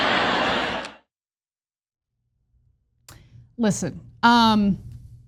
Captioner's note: applause